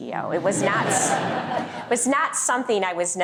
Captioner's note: laughter